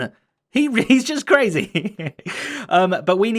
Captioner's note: chuckles